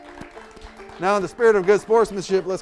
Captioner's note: audience applauding